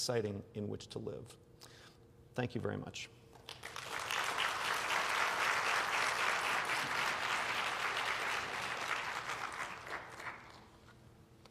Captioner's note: applause